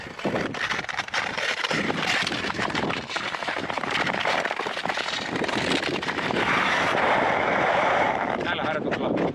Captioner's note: skating sound/motion